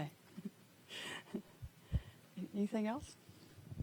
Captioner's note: laughing